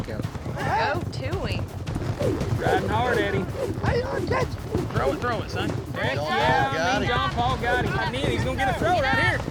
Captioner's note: all shouting